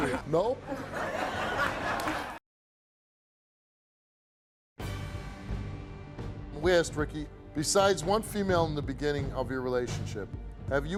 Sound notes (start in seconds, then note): 0.0 audience laughs; 4.8 suspenseful music